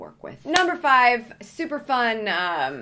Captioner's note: hands clapping